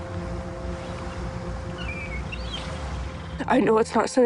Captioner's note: birds squawking in distance